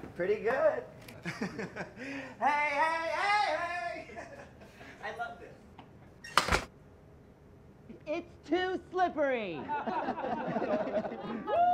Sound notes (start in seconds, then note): 1.2 laughs; 3.8 laughs; 6.2 door clicking shut; 9.6 people laughing